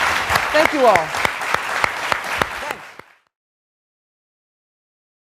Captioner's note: applause